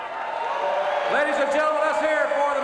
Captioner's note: crowd cheering